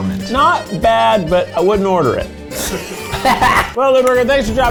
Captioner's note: laughing